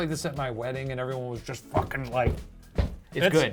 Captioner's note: stomps